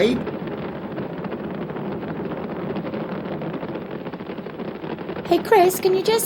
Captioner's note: sound of rocket lifting off